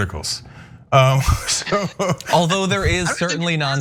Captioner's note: laugh